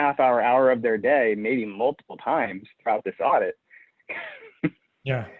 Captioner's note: chuckles